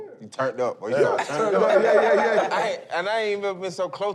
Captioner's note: laughter